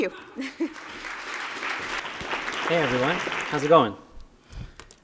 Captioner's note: applause